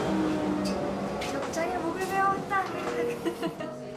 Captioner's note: haha